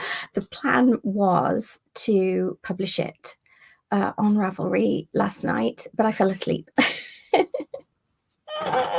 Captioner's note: laughing